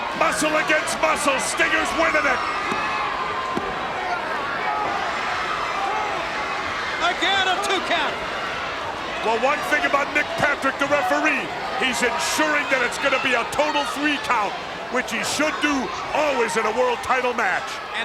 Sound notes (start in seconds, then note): 2.7 countdown thudding